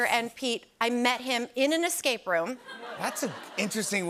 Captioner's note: laughter